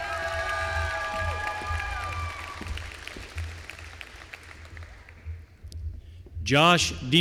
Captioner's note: applause